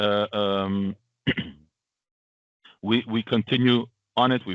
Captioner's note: clears throat